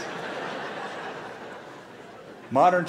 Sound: laughter

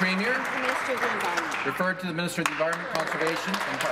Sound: applause

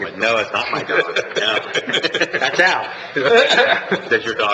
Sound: laughing

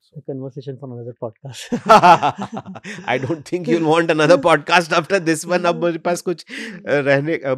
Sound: laughing

